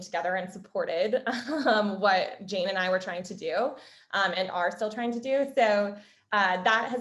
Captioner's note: laugh